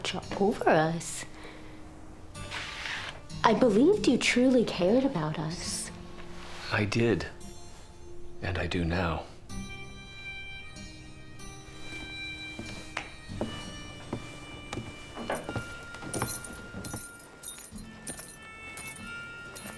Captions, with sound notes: I believed you truly cared about us. - I did, and I do now. (shoes jingling)